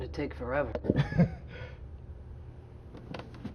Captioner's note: laughs